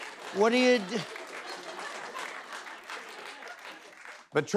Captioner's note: applause